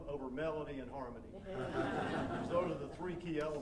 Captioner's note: audience laughing